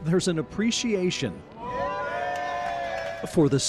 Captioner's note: cheering and clapping